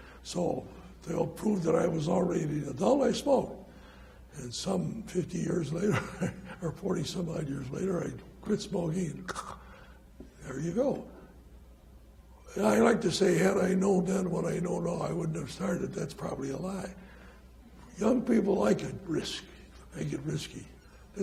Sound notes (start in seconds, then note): 9.3 hacks